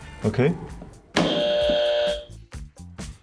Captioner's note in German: Buzzer